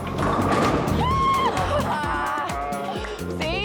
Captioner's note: cheering